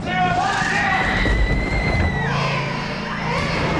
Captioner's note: banging on wooden door; creature noises